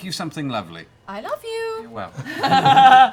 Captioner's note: singsong